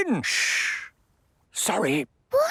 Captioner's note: whispering; quietly